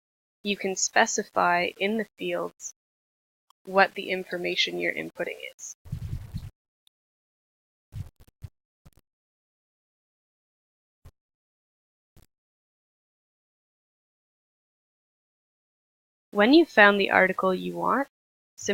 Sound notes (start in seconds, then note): 5.9 silence